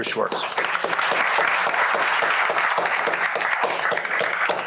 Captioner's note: applause